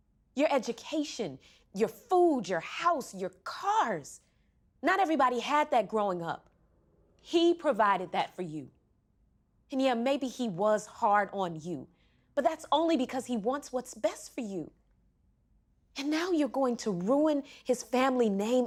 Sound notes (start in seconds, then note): none